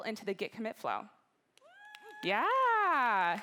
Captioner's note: applause